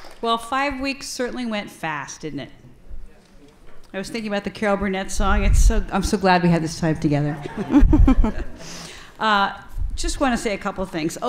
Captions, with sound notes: - Well five weeks certainly went fast, didn't it? I was thinking about the Carol Burnett song, I'm So Glad We Had This Time Together. (audience laughs) Just want to say a couple things.